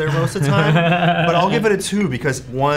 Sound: Ian laughs

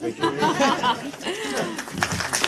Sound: laughter; applause

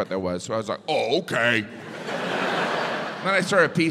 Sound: audience laughs

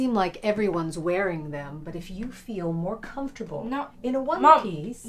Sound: none

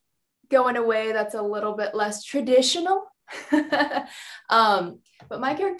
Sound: chuckles

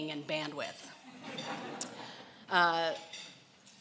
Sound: laughing

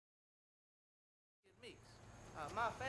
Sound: male Voice

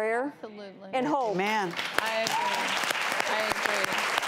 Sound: audience applause

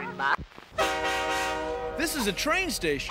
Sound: train whistle blows

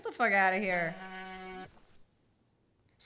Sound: phone vibrates

